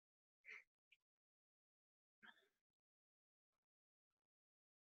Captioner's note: silence